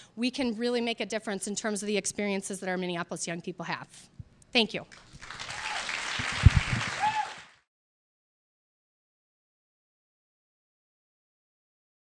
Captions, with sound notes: we can really make a difference in terms of the experiences that our Minneapolis young people have. Thank you. (audience applauding)